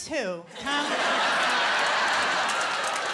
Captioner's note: laughter and applause